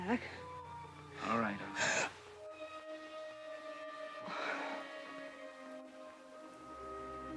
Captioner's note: Dawn gasps